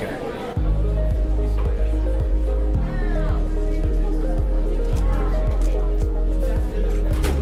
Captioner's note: students chattering; light music